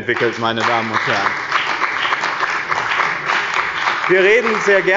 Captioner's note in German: Beifall bei dem BÜNDNIS 90/DIE GRÜNEN und der CDU